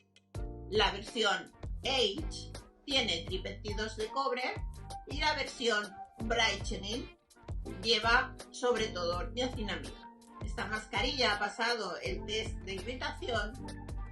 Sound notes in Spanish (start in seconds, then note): none